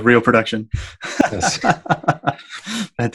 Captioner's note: laughing